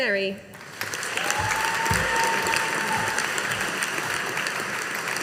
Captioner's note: audience applauding